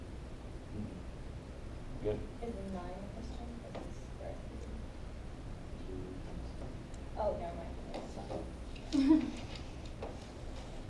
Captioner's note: background talking